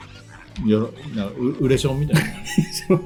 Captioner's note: laughs